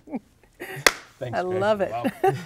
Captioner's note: laughing; clapping